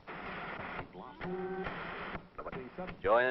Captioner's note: television static